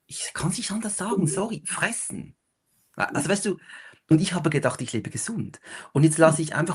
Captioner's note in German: räuspern